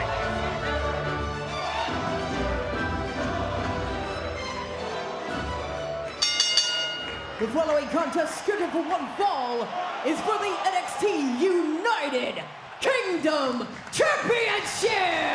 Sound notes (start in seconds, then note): 1.3 crowd chants "walter"; 8.1 bell rings